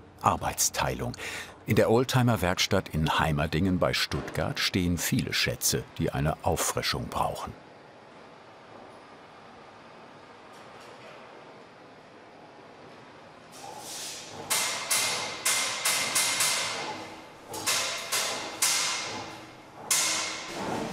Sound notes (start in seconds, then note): 14.4 metal hammering in the background